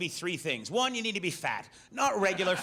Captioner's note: audience laughs